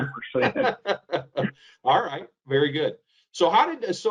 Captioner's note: laughs